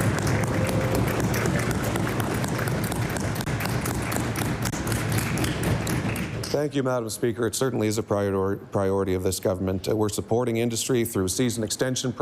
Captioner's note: applause